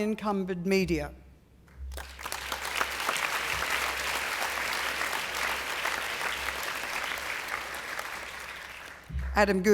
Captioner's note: applause